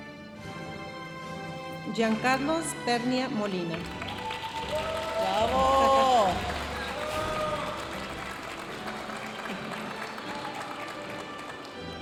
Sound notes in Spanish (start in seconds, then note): 4.2 aplausos y vítores de la audiencia; 8.2 aplausos de la audiencia